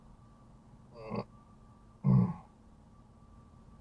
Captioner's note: old man noises